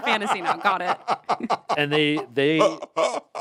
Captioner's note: Anthony laughs